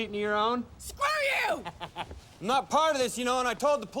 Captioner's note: laughs